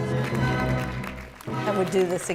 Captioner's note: applause